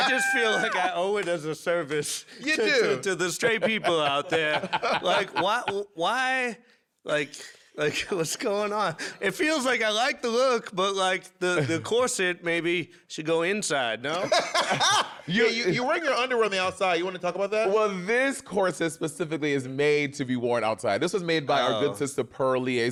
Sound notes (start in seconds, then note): 14.2 laughs